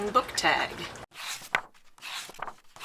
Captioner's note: pages turning